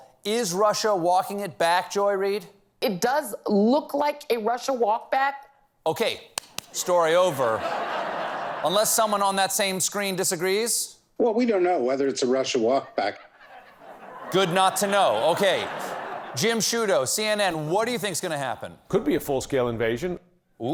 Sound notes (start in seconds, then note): 7.2 laughter